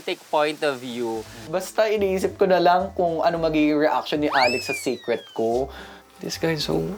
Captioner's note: bong